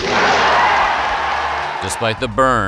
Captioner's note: crowd cheering